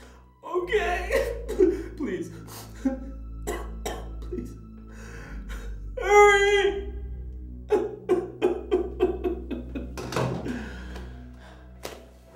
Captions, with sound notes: - Okay, please, please, hurry. (crying) (laughing)